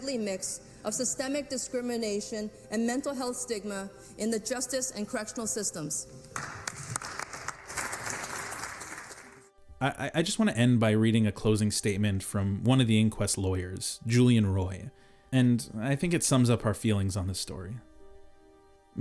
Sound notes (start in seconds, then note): 6.3 crowd applauding